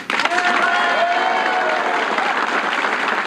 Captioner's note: audience cheering